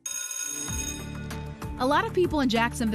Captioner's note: bell ringing